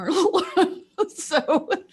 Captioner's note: laughs